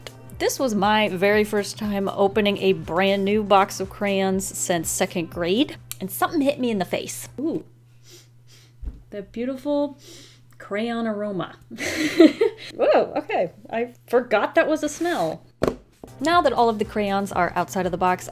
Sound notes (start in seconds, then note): 8.0 sniffs; 11.8 laughs